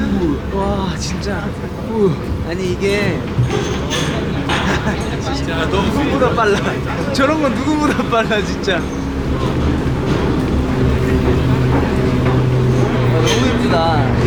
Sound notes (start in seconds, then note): 4.4 laughing